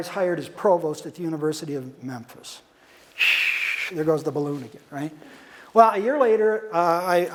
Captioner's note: whistling noise